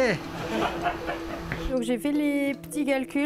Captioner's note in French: rires